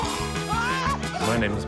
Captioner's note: exclaims; groans